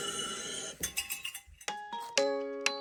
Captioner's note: air hisses; metal clangs rhythmically; energetic music